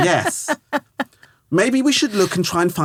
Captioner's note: laughing